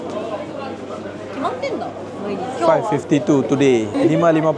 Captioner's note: speaking Japanese